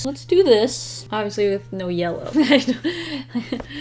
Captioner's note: laughs